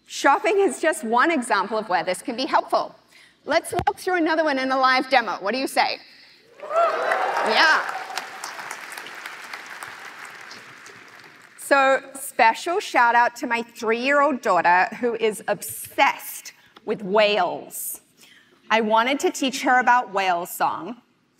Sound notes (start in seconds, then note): 6.6 applause